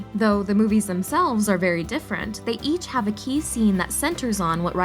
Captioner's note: none